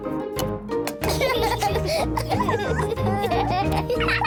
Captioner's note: both laugh